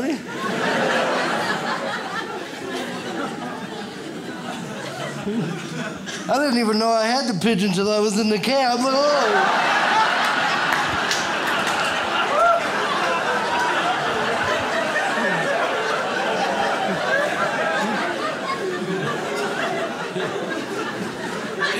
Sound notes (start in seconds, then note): 0.0 audience laughs; 8.6 audience laughs